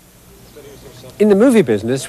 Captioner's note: men chattering quietly in background